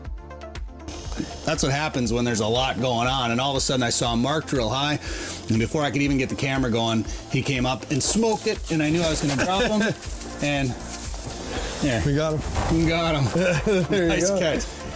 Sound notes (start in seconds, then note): 9.1 laughs; 13.3 laughs